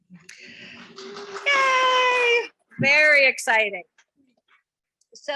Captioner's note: members clapping